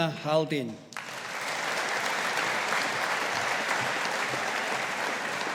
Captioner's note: audience applauding